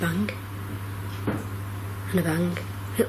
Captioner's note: quiet banging